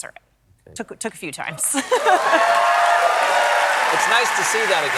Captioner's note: cheers and applause